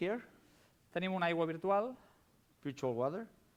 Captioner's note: non-english speech